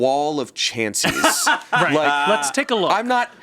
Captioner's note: laughs